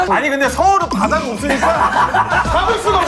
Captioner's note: choked up